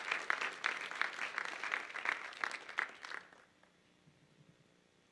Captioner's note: applause